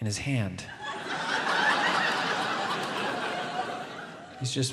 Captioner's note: audience laughs